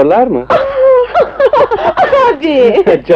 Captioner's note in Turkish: Neşeli kahkahalar